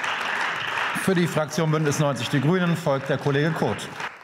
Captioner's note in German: Beifall